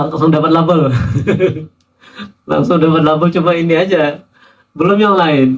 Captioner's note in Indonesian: tertawa